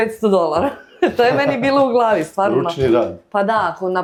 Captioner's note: laughs